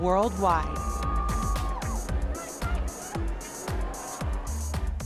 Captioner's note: crowd cheering